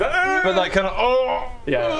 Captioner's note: oowwh